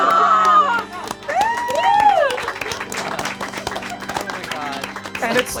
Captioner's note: all laugh; all cheer and applaud